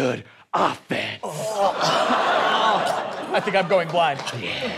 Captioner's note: sounds of disgust